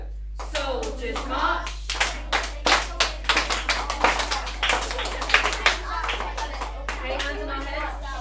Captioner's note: children clap